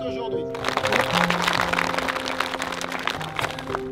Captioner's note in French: applaudissement